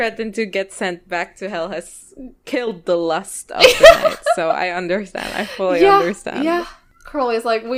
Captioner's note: laughs